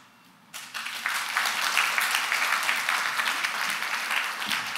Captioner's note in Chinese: 掌聲